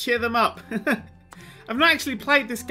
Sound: laugh

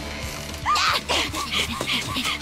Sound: panting

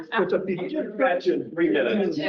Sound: laughs

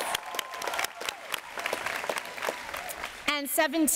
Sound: applause

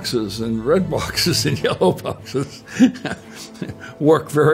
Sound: laughing

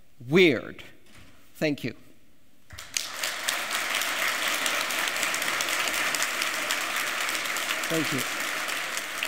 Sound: applause

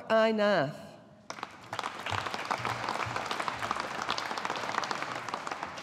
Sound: audience applauding

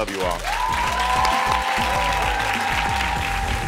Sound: audience cheering and applauding; dramatic music

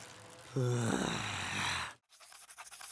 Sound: growling

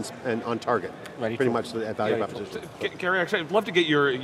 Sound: murmuring agreement

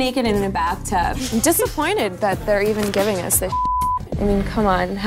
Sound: beep

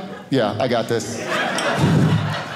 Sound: audience laughing

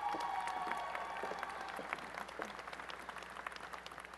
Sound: applause and cheering

